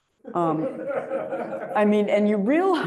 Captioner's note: audience chuckles